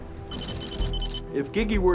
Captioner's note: rapid beeping